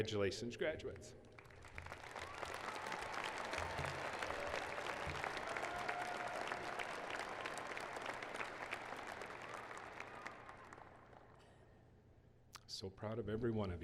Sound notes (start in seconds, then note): 10.7 cheers and applause